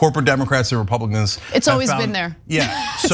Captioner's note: laugh